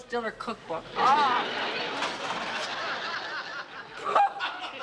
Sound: laughter

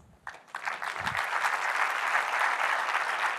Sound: applause

